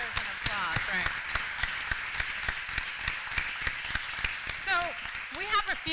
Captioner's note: applause